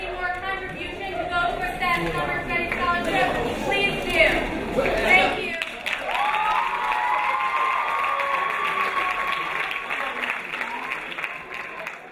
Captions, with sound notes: any more contribution to those who are status Summer Study Scholarship, please do. Thank you. (crowd cheering) (crowd applauding)